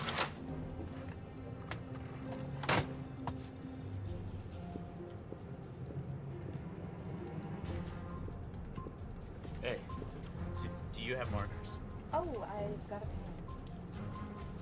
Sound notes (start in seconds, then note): none